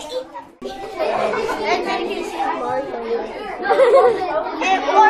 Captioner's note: students chattering among themselves